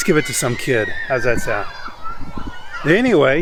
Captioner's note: kids yelling